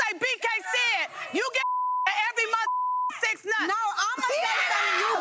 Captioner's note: beep